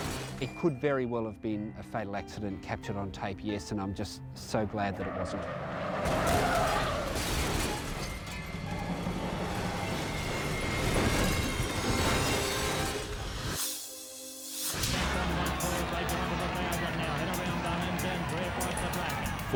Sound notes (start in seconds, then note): 0.0 car crashing; 4.8 car skidding; 5.3 dramatic music; 9.2 car crashing; 9.2 edgy dramatic music; 12.1 dramatic whoosh; 15.2 track announcer calling race